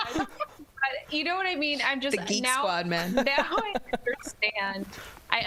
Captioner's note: laughter